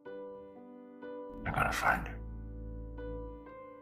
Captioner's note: voiceover